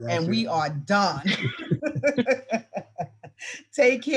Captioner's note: all laugh